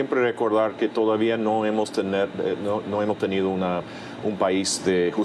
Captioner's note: speaking in a foreign language